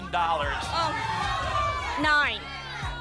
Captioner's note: audience shouting numbers